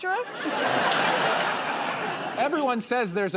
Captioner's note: laughter